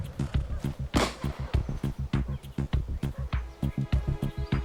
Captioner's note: rifle fires; dramatic music